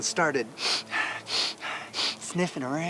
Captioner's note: sniffs